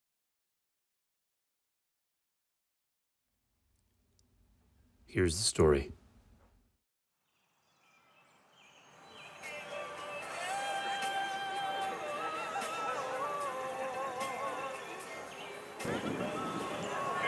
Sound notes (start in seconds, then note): 9.5 birds chirping; 12.5 upbeat music